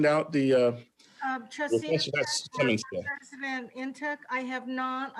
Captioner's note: faintly speaking